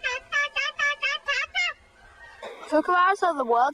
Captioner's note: imitating kookaburra